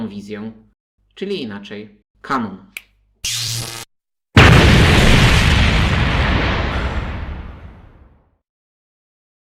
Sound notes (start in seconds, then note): 3.2 trrrzzzz; 4.3 boom